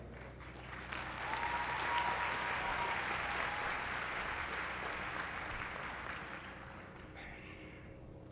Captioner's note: applause